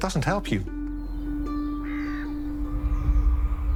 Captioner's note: crow caws